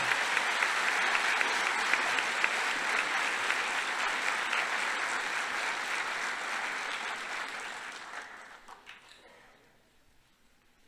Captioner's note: applause